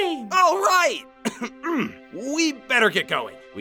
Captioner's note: clears throat